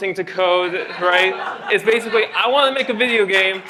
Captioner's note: laughter